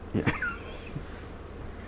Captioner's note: laughs